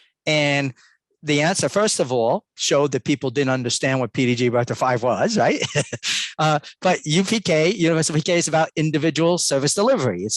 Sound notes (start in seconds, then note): 5.2 laughs